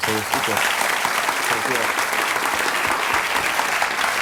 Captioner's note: audience applauds